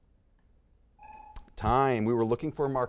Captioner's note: buzzer beeping